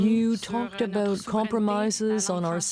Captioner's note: speaking french